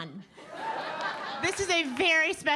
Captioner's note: audience laughing